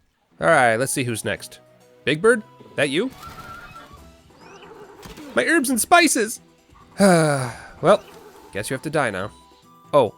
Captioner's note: sigh